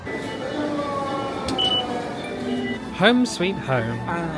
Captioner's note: phone beeping